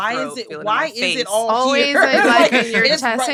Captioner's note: laughs